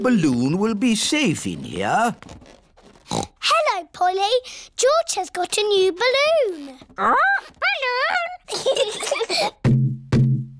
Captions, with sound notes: Your balloon will be safe in here. (SNORTS) Hello, Polly. George has got a new balloon. -Ark? Balloon? -(BOTH GIGGLE)